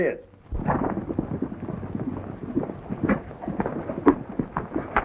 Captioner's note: horses galloping